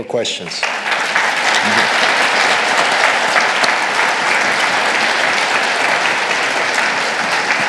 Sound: audience applauding

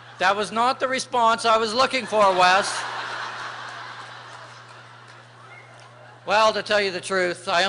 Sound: laughter

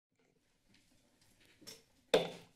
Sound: silence; taps gavel

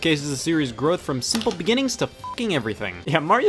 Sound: beep

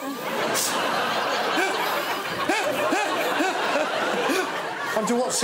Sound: laughter

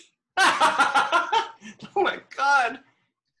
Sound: laughing

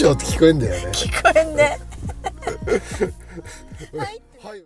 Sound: laughs

